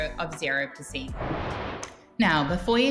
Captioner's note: image whooshing